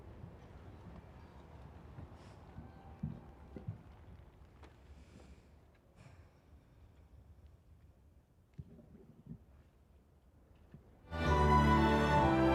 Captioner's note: applause